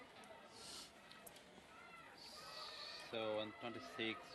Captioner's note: sniffles